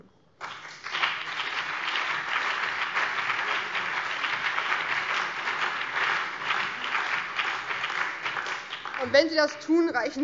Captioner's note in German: Beifall BÜNDNIS 90/DIE GRÜNEN, vereinzelt CDU und DIE LINKE